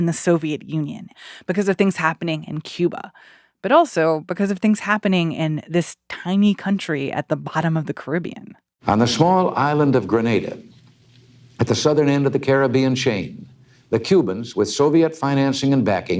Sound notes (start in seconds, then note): 8.8 soundbite of archived recording